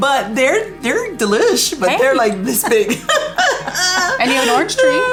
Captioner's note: laughs